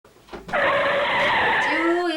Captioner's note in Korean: 바퀴 급정거 소리